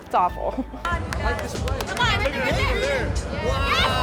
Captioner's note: yelling